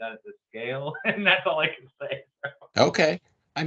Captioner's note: laughs